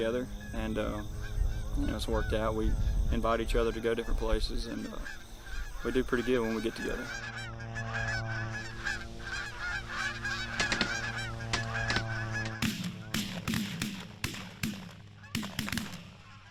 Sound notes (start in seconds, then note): 10.2 gunshots blare